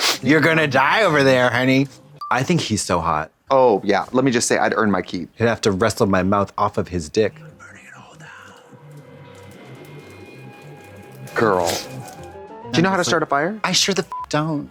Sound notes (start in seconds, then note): 2.1 pause chime; 11.8 playful music; 14.1 beep